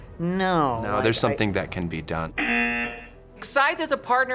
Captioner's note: buzzer